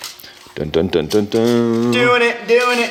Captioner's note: hums